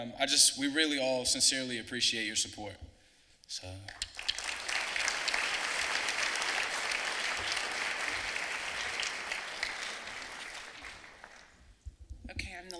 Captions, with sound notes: And we really all sincerely appreciate your support. (clapping)